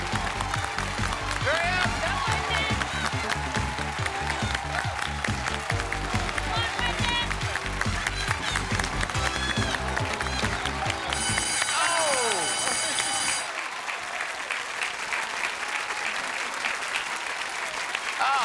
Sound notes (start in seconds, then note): 4.0 cheers and applause; 10.9 alarm blaring